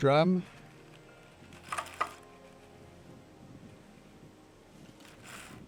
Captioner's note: carder rustling